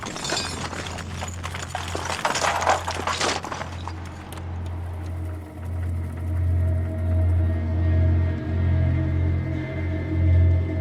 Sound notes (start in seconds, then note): 0.0 metal clattering; 5.0 tape whirring